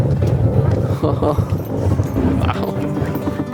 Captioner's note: chuckling; pleasant guitar music